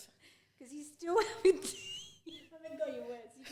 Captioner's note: laughs